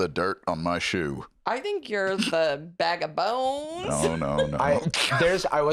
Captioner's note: laughs